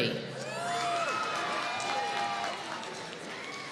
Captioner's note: applause